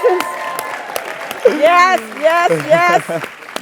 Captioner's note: laugh; applause; laugh